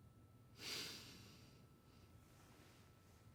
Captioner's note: exhales